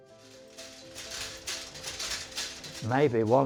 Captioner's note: machine clattering